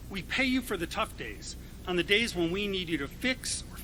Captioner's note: none